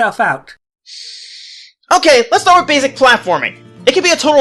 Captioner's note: deep breath